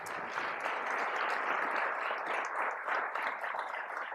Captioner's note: applause